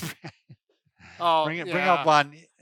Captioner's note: laughing